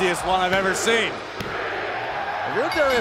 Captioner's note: crowd cheering